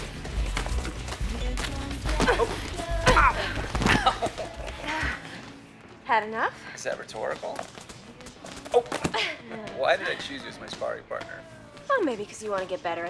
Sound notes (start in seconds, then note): 2.0 groaning; 3.6 laughs